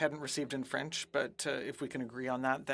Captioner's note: speaking French